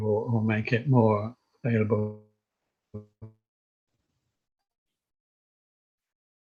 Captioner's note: tech glitch